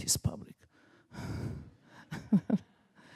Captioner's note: laughs